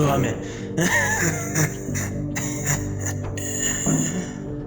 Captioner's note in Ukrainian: Кашель